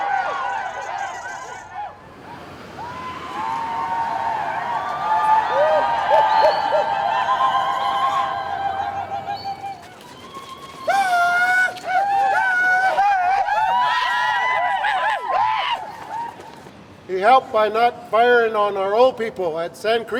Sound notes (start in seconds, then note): 0.3 victory shouts